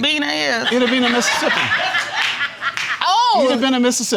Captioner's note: audience laughing